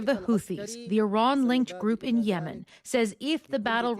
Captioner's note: speaking Alternate Language